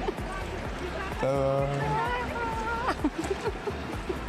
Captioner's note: смех